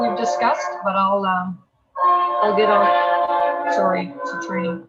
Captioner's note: train hooting